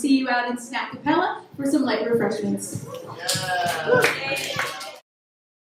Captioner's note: applause